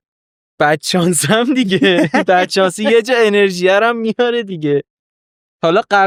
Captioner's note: laughs